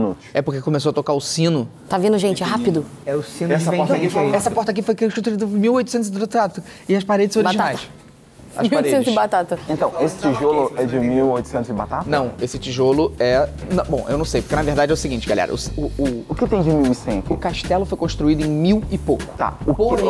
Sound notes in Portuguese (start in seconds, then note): 4.3 falando rápido